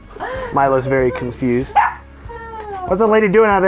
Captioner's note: dog barking